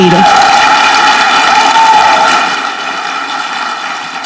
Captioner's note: audience clapping